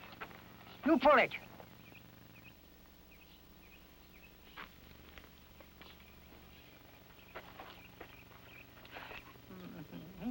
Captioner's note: laughs